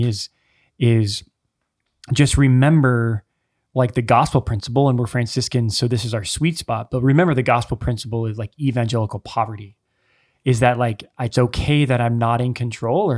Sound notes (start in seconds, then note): none